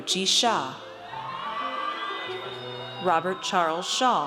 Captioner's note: audience cheers